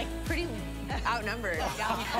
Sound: laughter

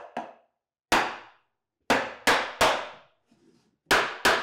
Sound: hammer taps

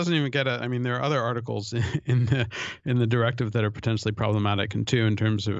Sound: chuckle

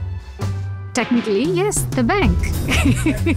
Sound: laughs; upbeat music

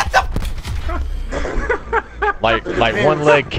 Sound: laughing

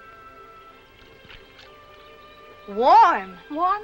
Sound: water splashing

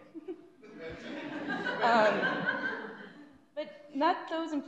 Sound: audience laughs

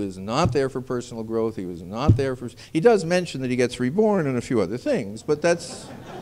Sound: laughter

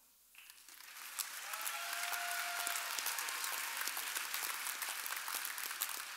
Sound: audience applauding and cheering

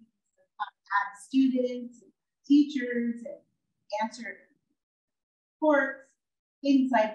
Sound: audio out

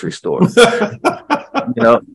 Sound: chuckles

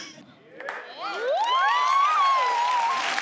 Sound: clapping

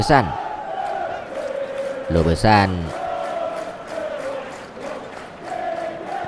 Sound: claps hands

